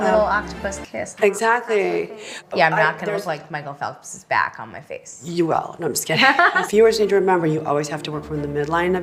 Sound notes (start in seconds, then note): 6.1 laughs